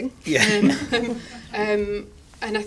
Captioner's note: they laugh